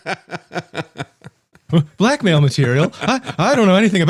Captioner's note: laughing